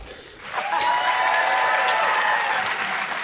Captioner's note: cheering, applause